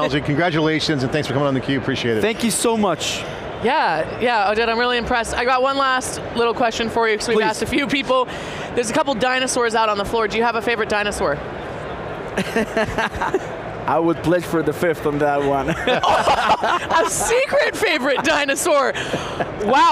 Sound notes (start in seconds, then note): 12.4 laughs